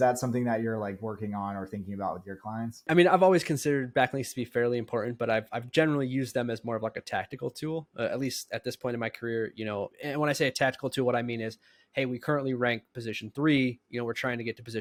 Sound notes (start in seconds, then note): 12.1 speaking